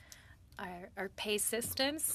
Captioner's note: speaking French